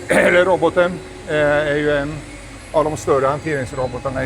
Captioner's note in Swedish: harklar sig